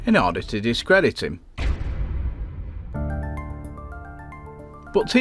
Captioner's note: sound FX